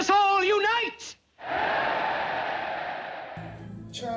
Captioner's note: cheering